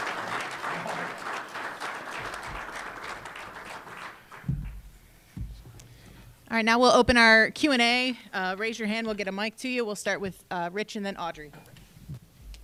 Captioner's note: applause